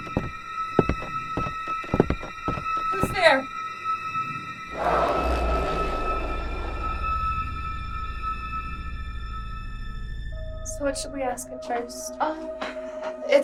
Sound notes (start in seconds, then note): 0.0 muffled rhythmic thumps; 4.4 eerie tones crackle